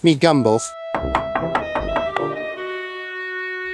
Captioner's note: door Knocking